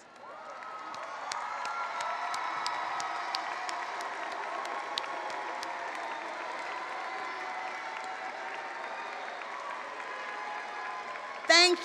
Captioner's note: cheering and applause